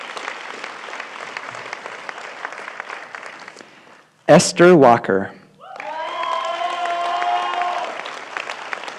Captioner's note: applause